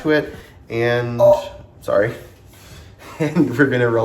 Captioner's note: groans